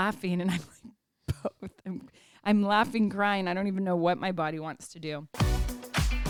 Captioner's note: laugh